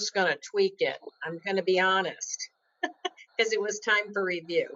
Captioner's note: laughs